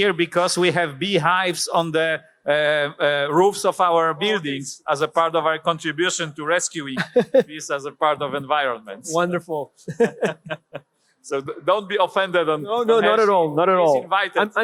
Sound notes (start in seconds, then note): 9.8 laughs